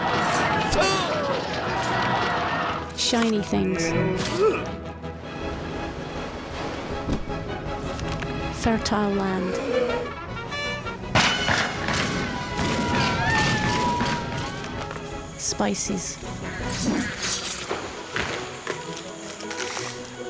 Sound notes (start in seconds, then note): 0.3 arrows whooshing; 0.7 groans; 9.4 groaning; 10.2 trumpets blaring; 11.2 gunshots firing; 12.3 people screaming; 16.3 sword whooshing; 17.6 upbeat instrumental music; 20.0 speaking in foreign language